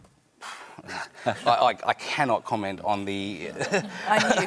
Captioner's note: exhales; laughter